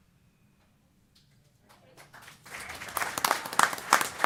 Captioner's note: applause